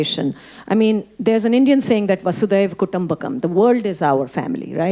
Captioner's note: speaking Hindi